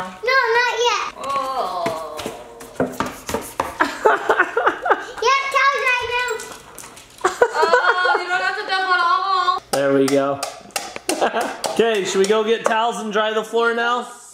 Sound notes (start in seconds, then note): 3.8 laughs